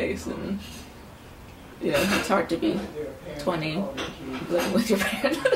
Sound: laughs

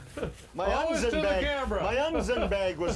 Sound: laughing

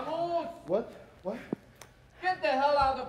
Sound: none

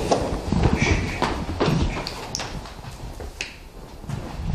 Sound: shushing quietly

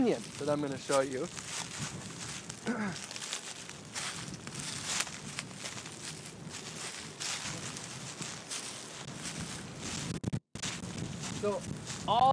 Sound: rustling sound of leaves under foot

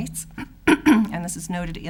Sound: clears throat

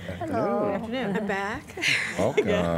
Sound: laughter

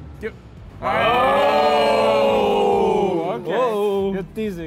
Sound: all cheering

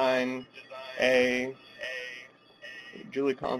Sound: feedback issues

